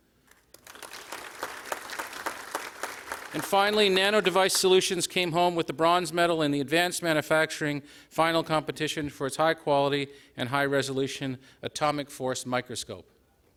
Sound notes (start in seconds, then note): 0.2 applause